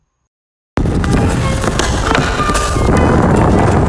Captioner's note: whooshing